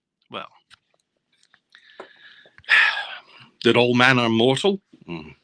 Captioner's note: sighing